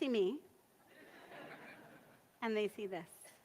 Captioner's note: audience laughs